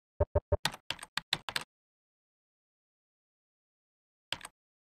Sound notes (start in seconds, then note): 0.0 keys clicking